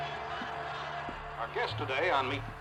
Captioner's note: cheering; on TV